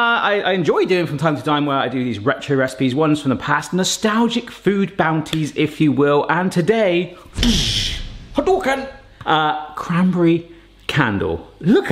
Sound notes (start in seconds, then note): 7.2 whooshes